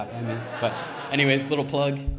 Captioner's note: audience laughs